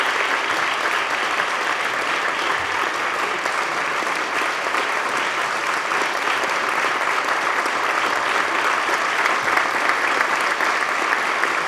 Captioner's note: applause